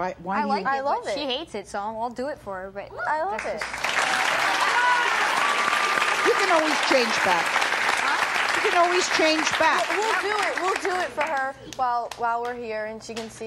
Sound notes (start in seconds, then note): 3.4 applause